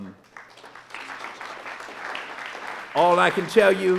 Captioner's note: audience applauding